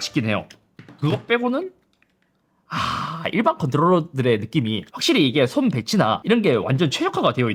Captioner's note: sigh